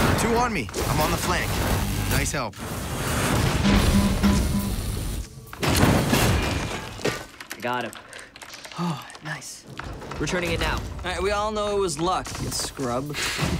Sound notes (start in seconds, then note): 3.6 alarm beeping; 7.0 keyboards clicking; 13.3 electricity zapping